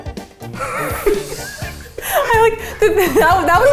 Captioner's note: wheezing